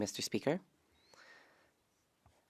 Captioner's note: speaking French